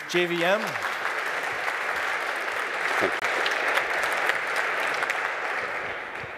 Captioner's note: applause